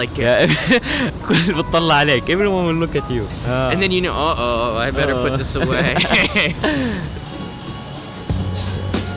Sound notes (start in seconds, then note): 0.4 is Laughing; 5.0 laughing both